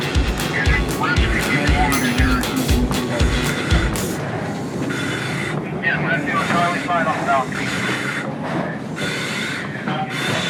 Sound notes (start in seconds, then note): 5.7 cadet breathing